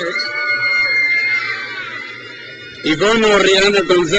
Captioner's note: crowd cheers